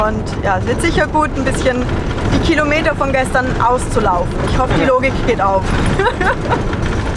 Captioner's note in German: Lachen